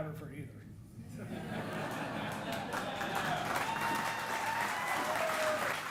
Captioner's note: audience applauding and cheering